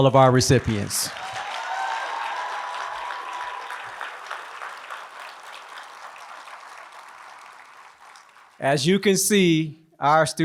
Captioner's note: applause